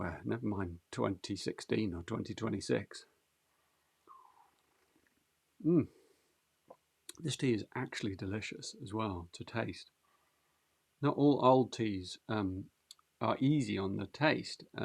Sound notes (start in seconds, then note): 3.1 moans